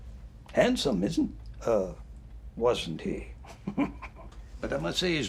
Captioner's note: chuckles